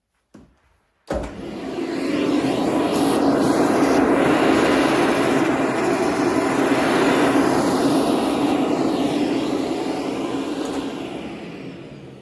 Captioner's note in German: Staubsaugergeräusch 😄